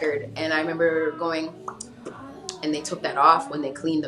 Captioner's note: pops lips